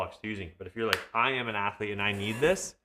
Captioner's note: hand clapping